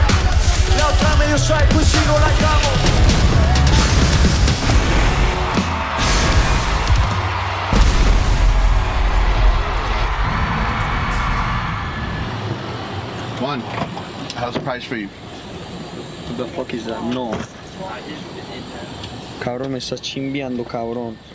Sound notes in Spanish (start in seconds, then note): 7.2 público aclamando; 12.9 hombre en inglés; 16.1 en inglés; 21.1 hombre en inglés